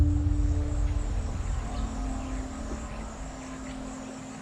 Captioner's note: suspenseful Music; birds chattering